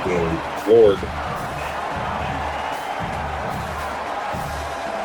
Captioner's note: crowd Noises